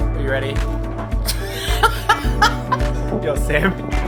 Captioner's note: laughing